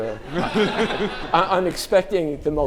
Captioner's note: audience laughing